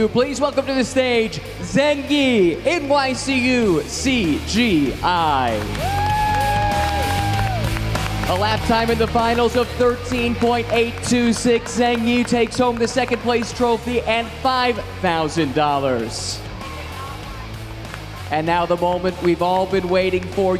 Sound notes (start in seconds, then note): 6.1 crowd cheering and clapping